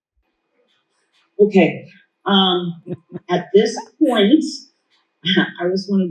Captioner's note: laughs